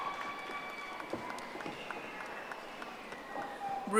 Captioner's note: audience applauding